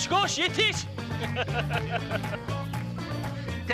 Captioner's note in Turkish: Gülme sesi